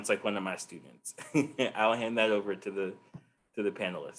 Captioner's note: chuckles